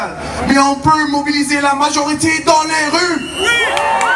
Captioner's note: shouting; applause